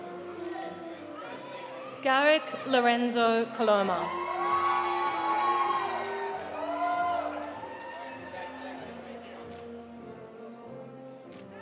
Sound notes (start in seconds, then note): 3.9 audience cheering; 4.1 audience applauding